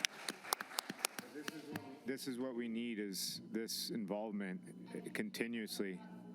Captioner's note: applause